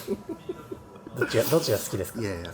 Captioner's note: laughs